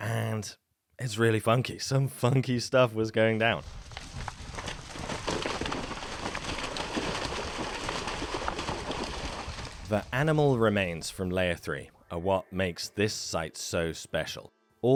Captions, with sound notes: and it's really funky. Some funky stuff was going down. (rapid footfalls) (water splashes) The animal remains from layer three are what makes this site so special.